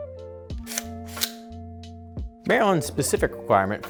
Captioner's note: gun clinks